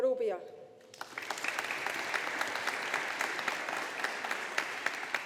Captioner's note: audience applauding